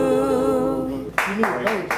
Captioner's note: applause